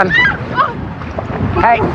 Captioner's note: scrcreamimingng